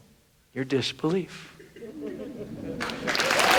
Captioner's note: group laughs; audience applauds